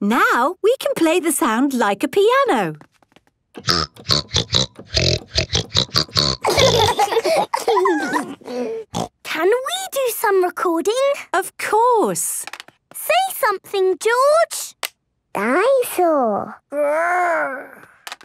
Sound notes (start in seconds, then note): 3.6 snorting version of theme song; 6.4 laughter; 9.2 snorting